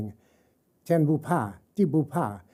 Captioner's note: speaking chinese